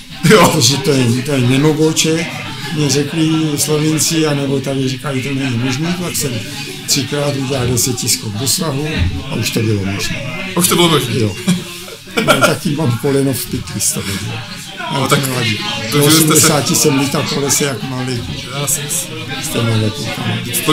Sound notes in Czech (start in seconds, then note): 11.4 smích